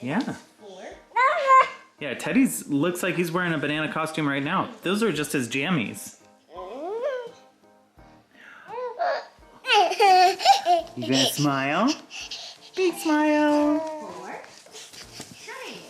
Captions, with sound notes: Yeah. Yeah. Teddy's looks like he's wearing a banana costume right now. Those are just as jammies. (Baby babble) You going to smile? Big smile